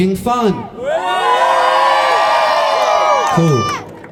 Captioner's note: cheers